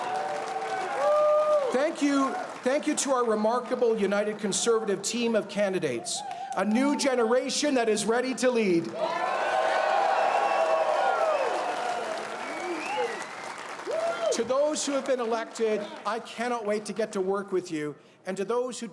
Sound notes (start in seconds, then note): 4.6 applause; 14.9 cheers and Applause